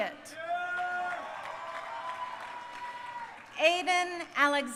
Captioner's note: crowd applauding